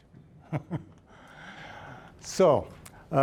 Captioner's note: chuckling